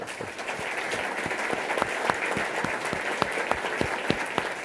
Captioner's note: applause